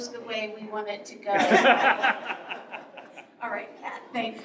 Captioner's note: laughter